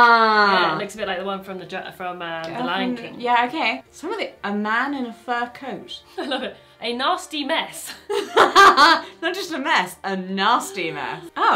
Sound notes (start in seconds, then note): 8.1 laughing